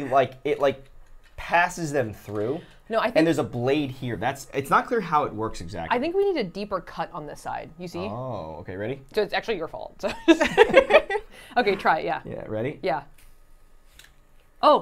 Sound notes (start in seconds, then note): 10.0 laughs